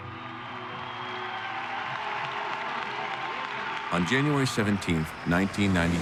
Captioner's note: crowd cheering